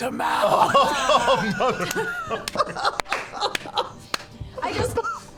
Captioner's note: laughter